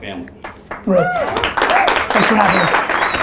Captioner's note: audience applause